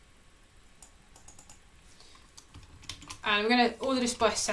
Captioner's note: keyboard clicking